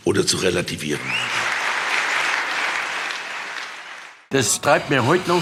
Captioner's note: applause